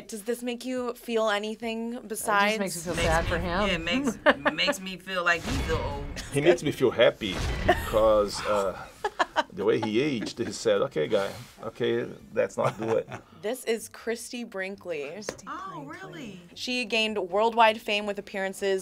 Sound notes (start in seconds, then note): 10.8 laughs